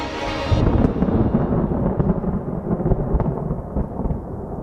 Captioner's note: thunder roaring